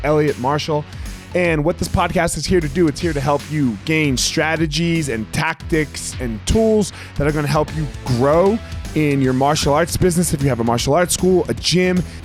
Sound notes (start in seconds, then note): none